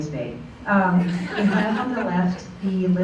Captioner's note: laughter